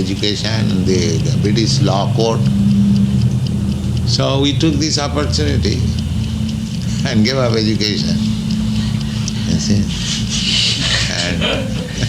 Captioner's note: chuckles